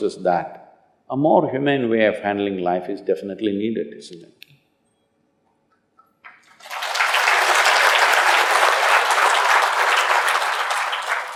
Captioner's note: applause